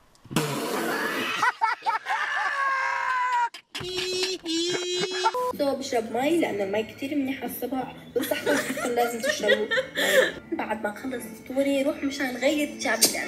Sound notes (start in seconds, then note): 0.2 laughing hysterically; 8.2 laughing